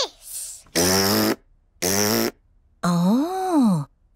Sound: blows raspberry

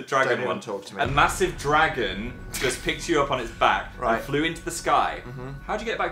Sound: laughs

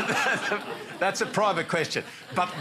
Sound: laughter

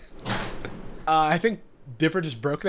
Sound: laughs; object crashing

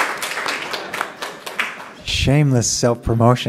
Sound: applause

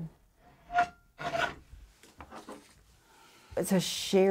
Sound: metal blade screeching

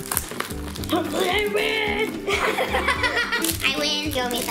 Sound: grunting

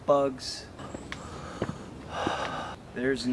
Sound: exhausted breath

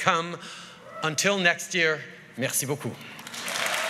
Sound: cheers & applause

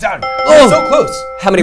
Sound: bell dinging

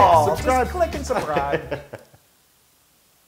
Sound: laugh

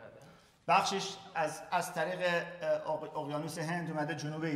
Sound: speaking in farsi

